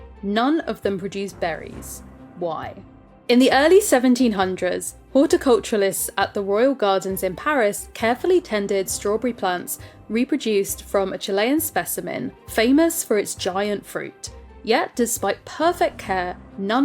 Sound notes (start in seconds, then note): none